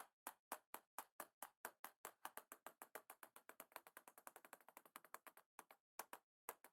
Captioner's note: table tennis ball rattling continues